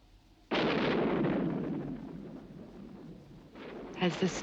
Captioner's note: thunder crashing